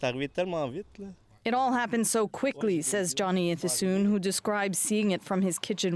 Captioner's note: speaking French